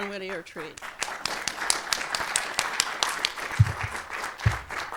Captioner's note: everyone applauding